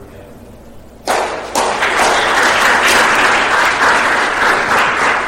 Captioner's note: applause